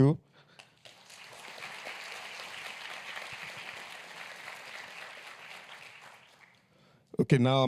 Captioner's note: applause